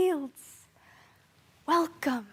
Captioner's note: soft breathing